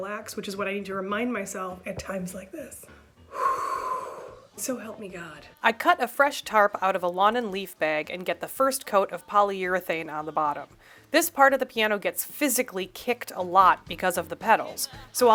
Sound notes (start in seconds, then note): 3.2 exhale